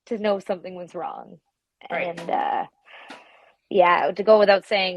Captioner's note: none